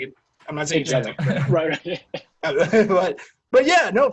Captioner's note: men laughing